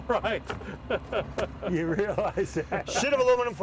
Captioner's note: laughing